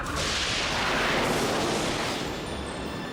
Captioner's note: lightning crashes